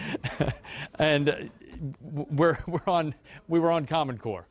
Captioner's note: laughter